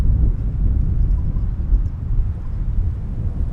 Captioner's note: wind whistling